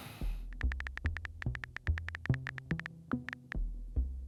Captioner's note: typing sounds